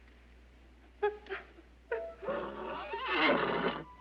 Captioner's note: crying; neighing